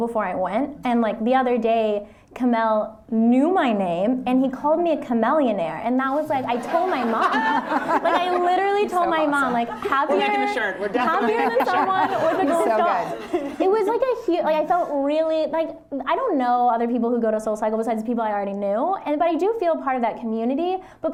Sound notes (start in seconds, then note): 12.6 laughter